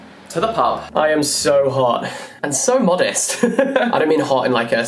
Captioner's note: laughs